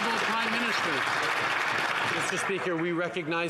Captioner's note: some Applause